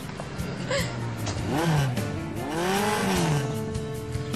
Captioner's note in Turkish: Motor sesi